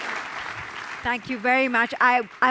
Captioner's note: audience applause